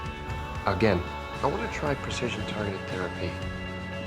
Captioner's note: voiceover